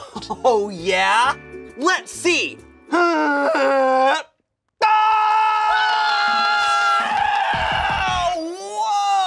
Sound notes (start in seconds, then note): 3.0 groans; 4.8 both scream